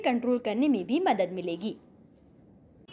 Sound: hindi

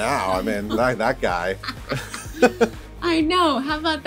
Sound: both laugh

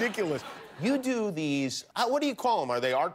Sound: laughter

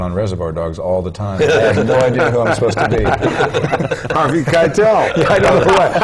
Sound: laugh

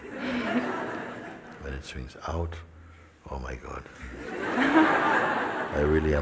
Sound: smijeh; smijeh

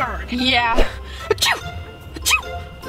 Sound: sneeze

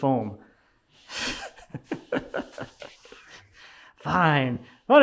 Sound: laughing

